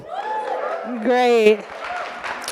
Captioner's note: audience cheering